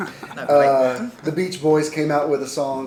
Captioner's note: laughs